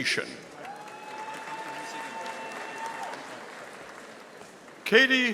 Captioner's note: audience applauding